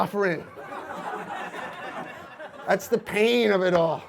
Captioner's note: audience laughs